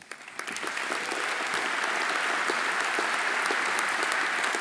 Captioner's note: audience applauding